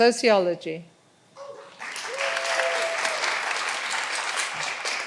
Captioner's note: all applauding